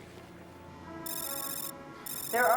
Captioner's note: alarm